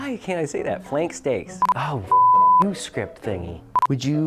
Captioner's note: beep; beeping